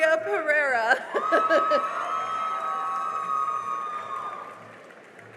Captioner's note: cheering and applause